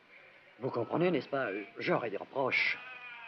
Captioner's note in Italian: lingua francese